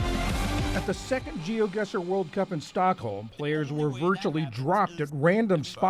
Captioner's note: voice-0ver